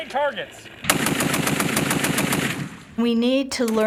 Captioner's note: firing rapidly